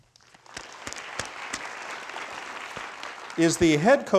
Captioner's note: crowd applauding